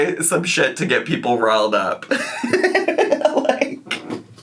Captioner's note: laughs